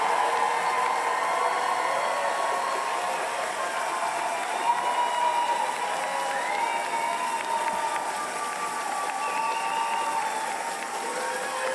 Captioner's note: cheers and applause